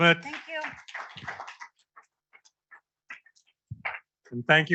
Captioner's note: audience applauding